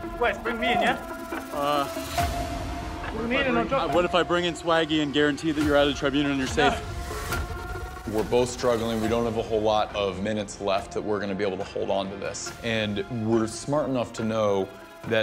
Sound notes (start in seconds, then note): 0.7 murmurs; 2.7 murmurs